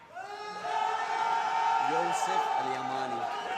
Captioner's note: loud cheering